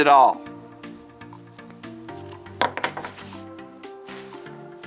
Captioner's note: sound of glue stick hitting table